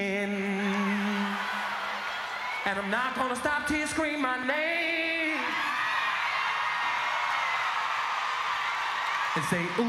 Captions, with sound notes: LEAKIN' ACTIN YOURSELF CAUSE I'M TWEAKIN' AND I'M NOT GONNA STOP TILL YOU SCREAM MY NAME (SCREAMS)